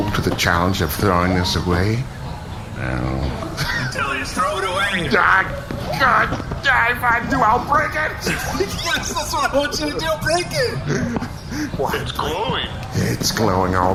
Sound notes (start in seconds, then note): 5.5 inarticulate noises of internal struggle; 10.8 breathing heavily